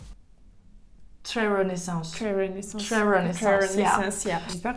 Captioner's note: British accent